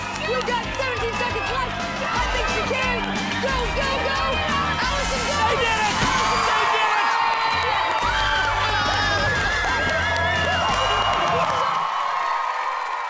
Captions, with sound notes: You've got 17 seconds left. I think she can! Go, go, go! Alison, go! They did it!0 [cheering]